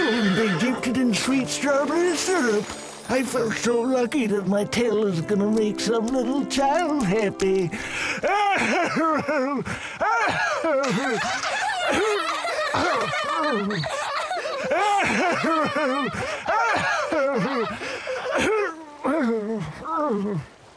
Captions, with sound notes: and they dipped it in sweet strawberry syrup! I felt so lucky that my tail is gonna make some little child happy. (hoarse laughter) aah-hur-hur-huewrgh aurgh-hur-hurgh aheurgh-uurgh-oorwh